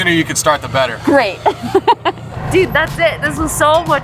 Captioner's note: laughs